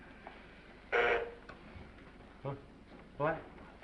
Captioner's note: bell buzzes